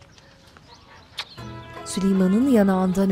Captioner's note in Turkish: Öpücük sesi